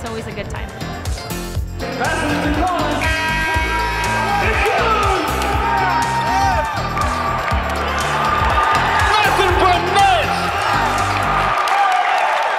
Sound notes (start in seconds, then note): 2.9 buzzer sounds; 5.8 huge applause